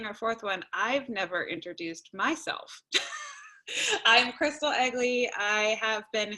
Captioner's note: laughter